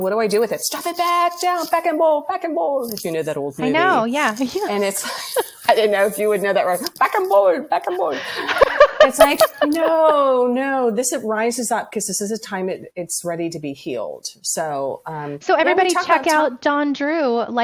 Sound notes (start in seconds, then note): 4.6 laughs